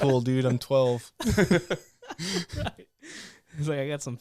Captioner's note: laughing